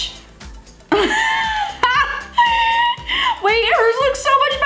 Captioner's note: laughs